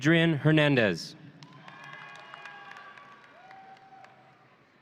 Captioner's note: audience cheering